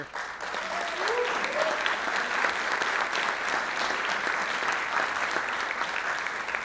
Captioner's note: audience applauds; audience cheers